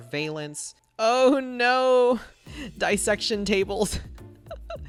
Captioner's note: laughs